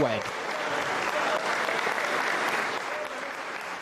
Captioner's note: crowd applauding